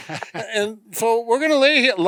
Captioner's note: laughs